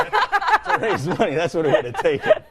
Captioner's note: both hosts laughing